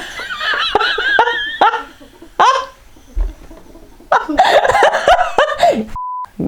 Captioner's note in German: lacht